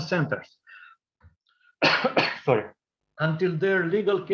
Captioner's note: coughing